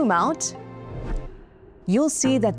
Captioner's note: scene change whooshing